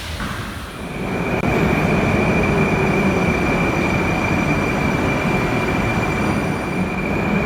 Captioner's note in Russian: прибытие поезда на станцию